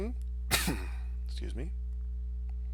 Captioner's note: sneezes